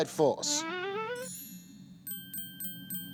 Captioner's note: bell dinging